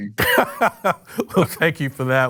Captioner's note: laughs